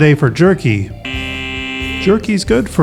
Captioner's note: buzzer ringing